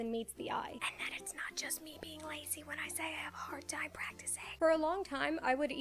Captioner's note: whispers